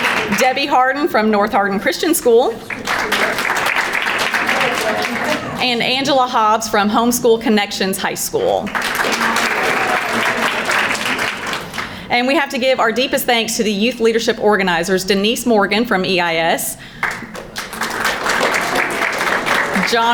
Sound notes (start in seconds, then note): 0.0 crowd applauding; 1.7 background chattering; 2.6 crowd applauding; 8.6 crowd applauding; 17.0 crowd applauding